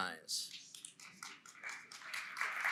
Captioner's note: applause & Cheering